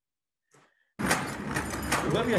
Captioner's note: clanking